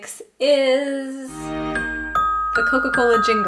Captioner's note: chimes jingle